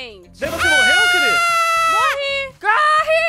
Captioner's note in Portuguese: grita